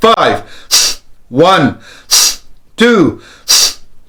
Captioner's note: deep breaths